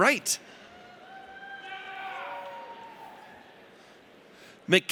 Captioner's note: audience cheers